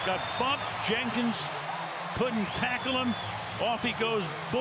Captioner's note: cheers